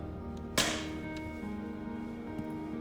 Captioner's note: strap snaps; gentle music